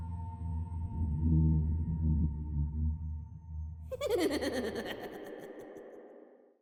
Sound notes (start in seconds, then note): 3.9 person laughs creepily